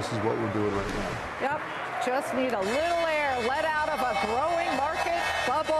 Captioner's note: applause